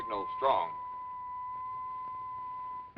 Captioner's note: beeping